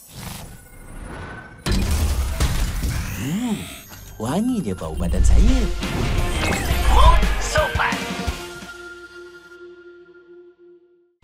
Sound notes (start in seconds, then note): 3.1 in polite voice